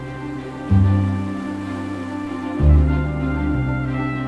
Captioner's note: atmospheric orchestral music; waves crashing